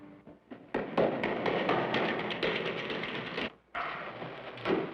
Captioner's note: loud footsteps